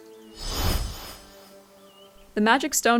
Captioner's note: magical teleportation noise